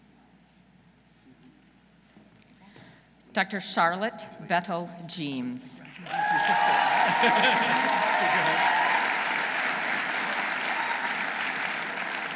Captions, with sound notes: Dr. Charlotte Bettle Gemes. -(audience cheering) -(audience applauding)